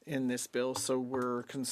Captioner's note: speaking French